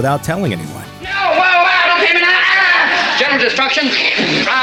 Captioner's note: yelling